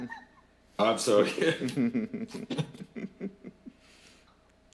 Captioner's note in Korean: 웃음